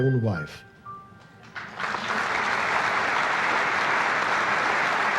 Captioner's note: audience applauding